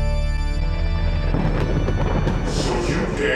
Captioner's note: thunder claps